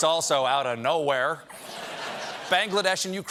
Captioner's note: laughter